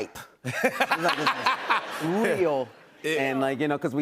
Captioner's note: laughter